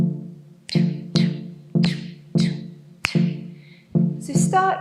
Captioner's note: percussively clicks along to the staccato drum pulses